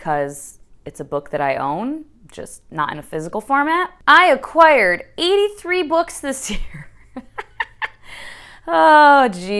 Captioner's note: laughs